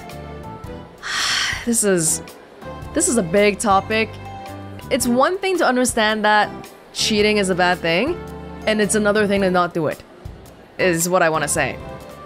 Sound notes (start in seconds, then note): 1.0 sighs